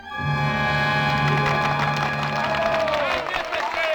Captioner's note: crowd cheering